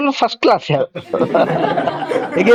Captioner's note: laughs